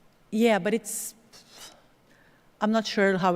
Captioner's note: exhales